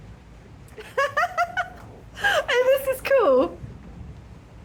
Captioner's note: laughing